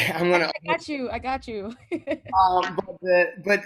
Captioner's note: laughs